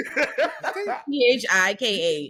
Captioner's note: laughing